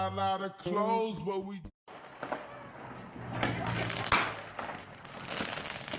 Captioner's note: firecrackers popping